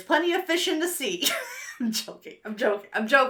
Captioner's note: laughs